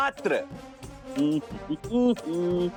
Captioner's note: vocalisation